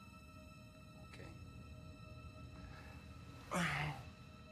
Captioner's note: groans, Sighs